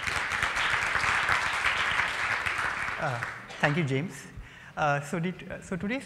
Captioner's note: applause